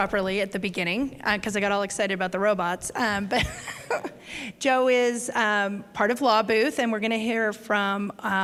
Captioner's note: chuckle